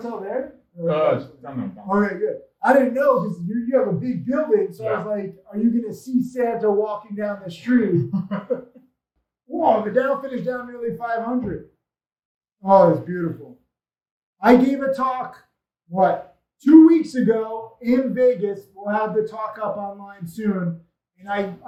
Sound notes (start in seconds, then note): 1.3 speaks faintly; 7.6 laughs calmly